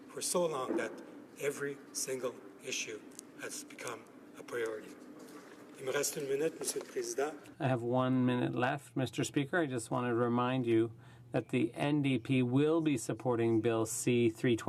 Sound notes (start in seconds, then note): 9.4 speaking French